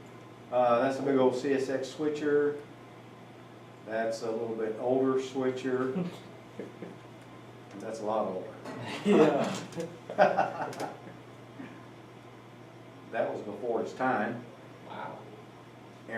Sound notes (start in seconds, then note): 10.0 laughter